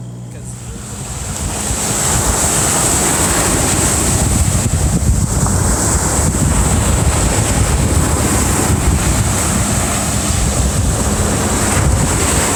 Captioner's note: distant ocean sounds fade in again